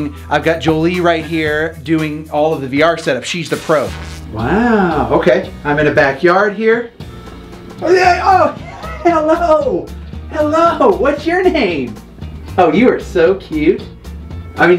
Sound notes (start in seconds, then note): 8.5 laughs